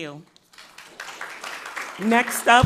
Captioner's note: crowd clapping